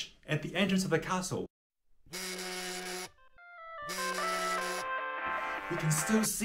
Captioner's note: phone rings